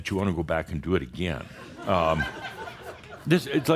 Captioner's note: some chuckles